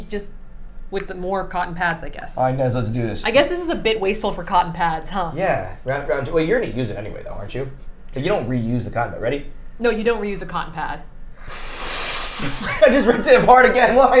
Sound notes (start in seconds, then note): 11.3 blowing air